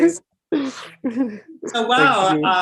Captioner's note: laughs